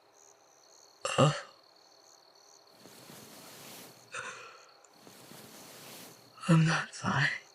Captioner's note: sickly groan